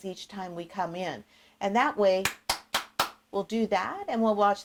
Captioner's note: clapping